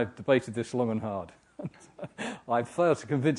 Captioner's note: laugh